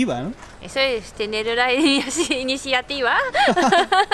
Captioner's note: laughs